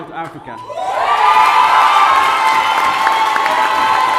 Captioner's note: audience cheers